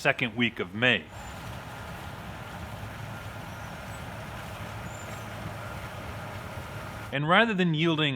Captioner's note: harvester sounds